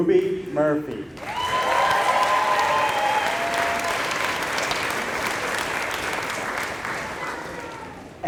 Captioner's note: applause